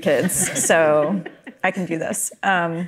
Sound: panelists chuckle

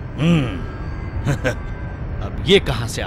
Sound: chuckles

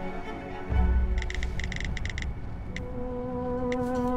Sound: tapping

